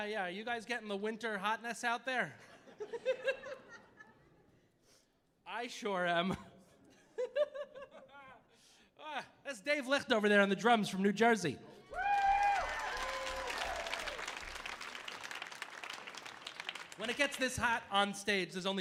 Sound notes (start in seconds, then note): 2.6 audience laughing; 11.9 audience cheering; 11.9 audience applauding